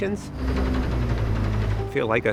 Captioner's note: mechanical vibrations